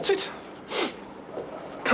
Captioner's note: sniffs